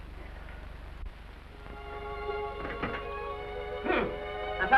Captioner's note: melancholy music; door opens